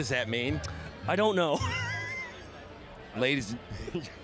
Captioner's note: chuckles